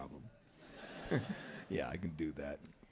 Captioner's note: laughter; laugh